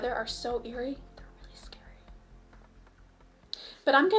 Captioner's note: whispers